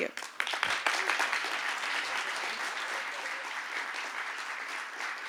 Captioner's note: applause